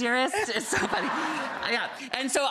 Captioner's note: Rachael and audience laughing